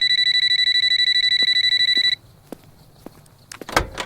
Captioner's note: phone ringing